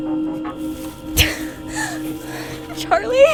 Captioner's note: heavily Breathing